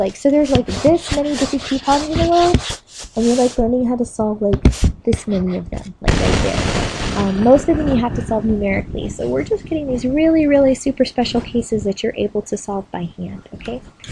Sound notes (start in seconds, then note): 6.5 microphone crackling